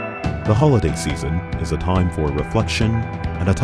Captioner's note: voiceover